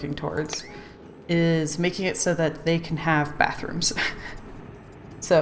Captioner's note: laughs